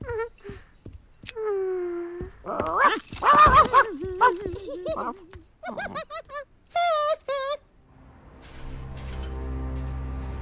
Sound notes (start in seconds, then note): 3.2 barking; 5.6 giggling